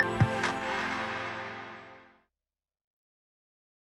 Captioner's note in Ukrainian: оплески